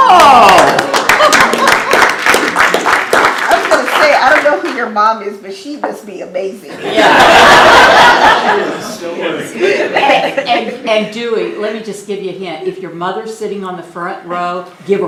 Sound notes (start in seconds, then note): 0.0 applause; 6.7 laughter